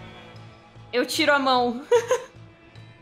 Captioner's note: laughs